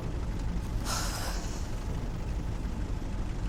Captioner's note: sighs